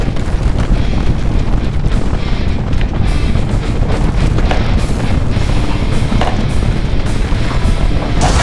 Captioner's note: earthquake increasing